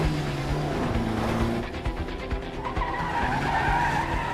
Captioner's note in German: quietschende reifen